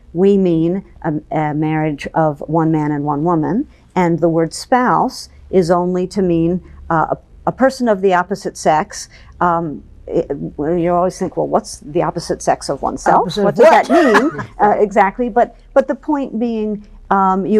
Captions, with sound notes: "we mean a marriage of one man and one woman, "and the word spouse is only to mean "a person of the opposite sex." You always think, "Well, what's, "the opposite sex of oneself?" What does that mean? - Opposite of what? (laughs) - Exactly. But the point being,